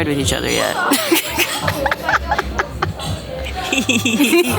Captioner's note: laughing; friends laughing